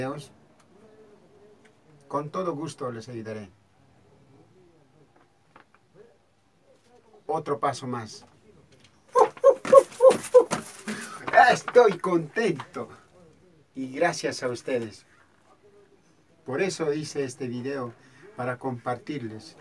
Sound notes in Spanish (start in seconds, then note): 9.1 demostración con gritos de alegría